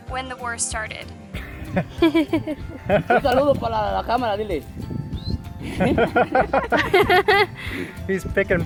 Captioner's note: laughter